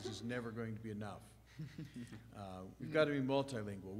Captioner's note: presenters chuckling